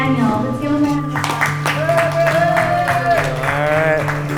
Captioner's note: cheers and applause